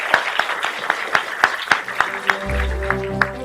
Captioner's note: audience clapping